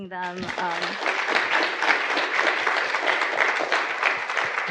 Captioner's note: audience applauding